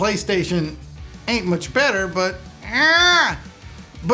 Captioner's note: groans